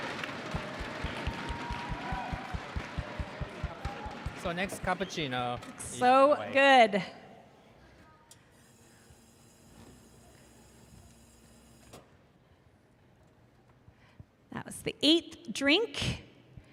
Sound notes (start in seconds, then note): 6.3 applause